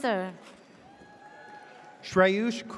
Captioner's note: audience cheers